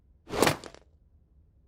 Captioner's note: swoosh!; basket thuds